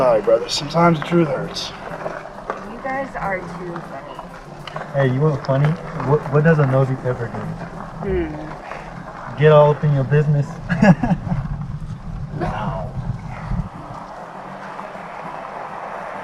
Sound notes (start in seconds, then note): 10.6 laughs; 13.4 bright music